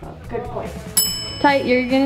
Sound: bell dinging

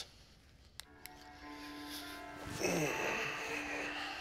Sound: sighs

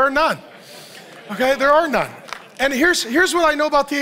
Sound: audience laughs

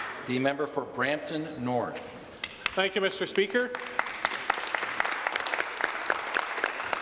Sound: some Applause

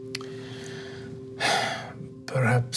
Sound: sighs

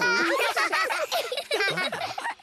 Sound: giggling

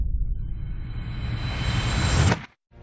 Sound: whooshing

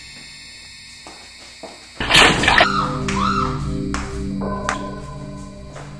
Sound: slam, scream

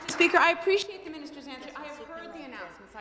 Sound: some Applause

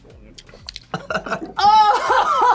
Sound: coughs

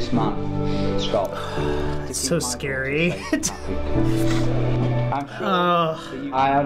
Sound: sighs; chuckles; groans

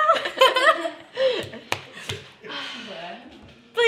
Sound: laughter

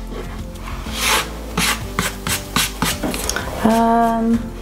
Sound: palm rubs

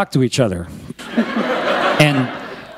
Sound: laughter

